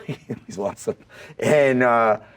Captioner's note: James laughs